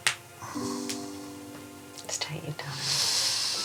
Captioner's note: inhales deeply